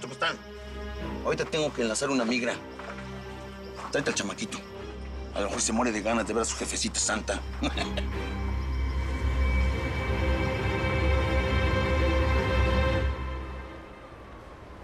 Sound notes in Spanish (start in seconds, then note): 7.5 Ríe